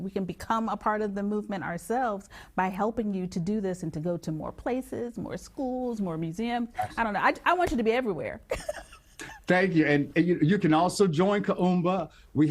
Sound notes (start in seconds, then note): 8.5 chuckling